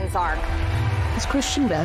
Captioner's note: crowd cheers